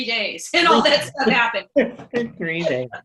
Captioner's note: laughs